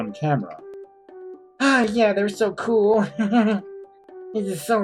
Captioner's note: laughs